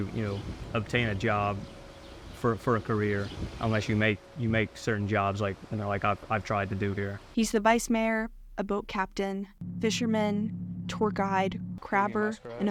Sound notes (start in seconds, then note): 8.0 voice-over